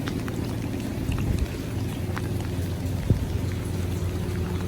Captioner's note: more gentle rain falling on water; the sound of a helicopter can be heard in the distance